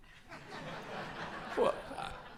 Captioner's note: audience laughs